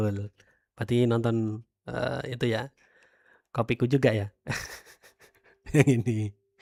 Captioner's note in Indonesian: tertawa